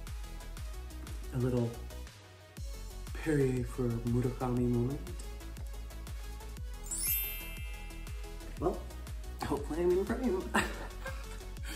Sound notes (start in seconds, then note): 6.8 chimes ringing